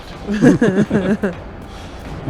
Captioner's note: laughter